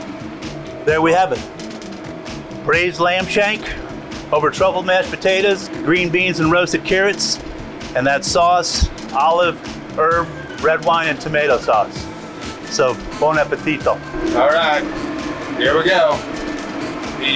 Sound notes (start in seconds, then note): 12.9 speaks in foreign language